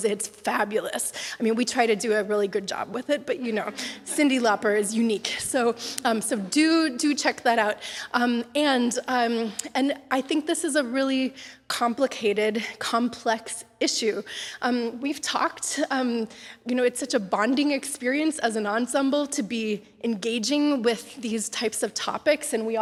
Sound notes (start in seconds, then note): 1.0 wryly; 5.0 laughter